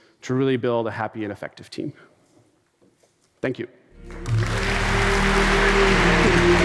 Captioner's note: applause